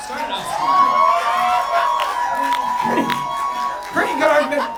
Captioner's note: audience cheering